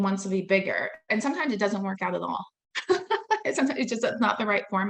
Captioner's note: laughing